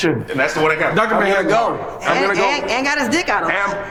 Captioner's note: overlapping chatter